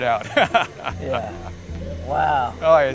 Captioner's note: laughs